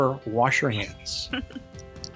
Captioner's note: chuckles; upbeat music